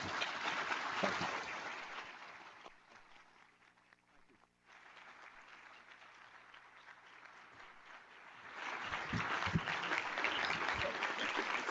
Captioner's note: applause